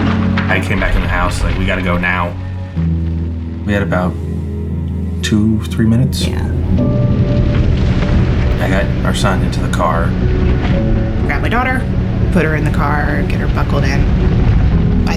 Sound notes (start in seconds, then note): 6.8 flames roaring